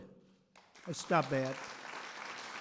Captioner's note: applause